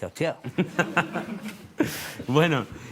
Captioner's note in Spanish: Risas